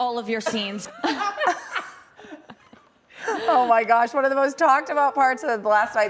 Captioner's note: laughter